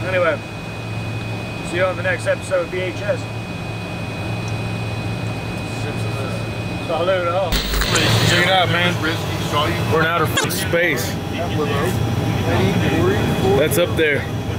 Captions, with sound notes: Anyway, see you on the next episode of VHS. - Sip to that. - Let it roll. - Check it out, man. We're in outer (record scratch) space. That's up there.